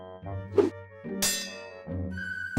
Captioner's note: hook clangs